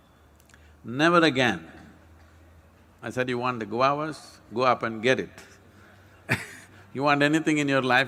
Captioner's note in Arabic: يضحك